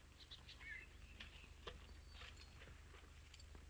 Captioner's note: birds chirping